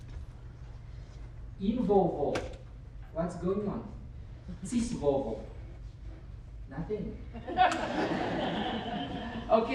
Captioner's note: laughter